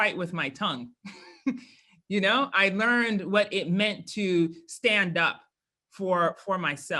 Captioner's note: laugh